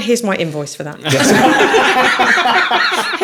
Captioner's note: laughing